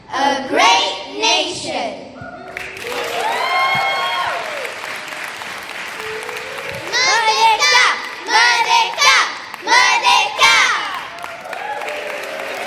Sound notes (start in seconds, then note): 2.5 cheers